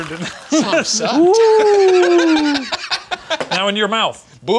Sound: laughing

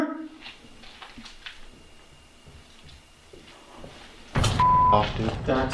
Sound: footsteps getting closer

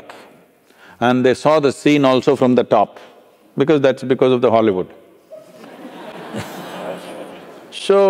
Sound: laughter

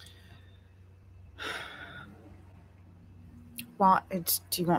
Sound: sighs

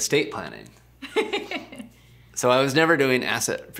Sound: laughing

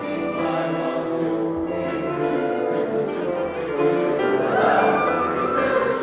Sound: vocal slide up

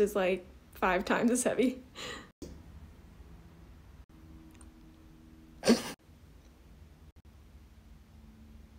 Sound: giggle

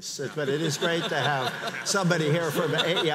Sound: audience laughs

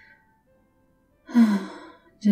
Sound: mock-sighing

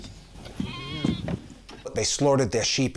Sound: sheep bleats

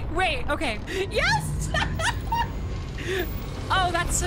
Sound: laughter

